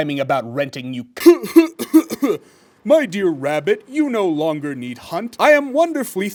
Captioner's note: coughs